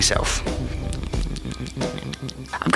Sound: chipmunk munching

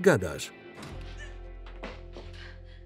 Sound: gasps

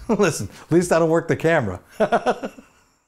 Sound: laughs

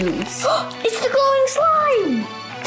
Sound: gasps

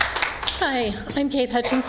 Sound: applause

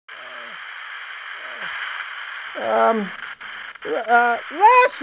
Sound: static

